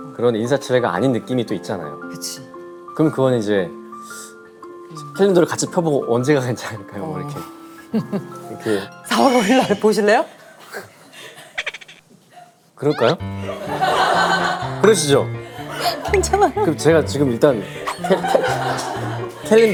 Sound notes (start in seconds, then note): 12.8 cracking up at her own joke